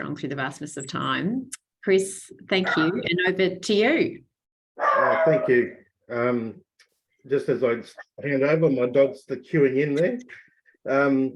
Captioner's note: dog barks